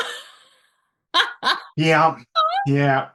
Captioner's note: laughing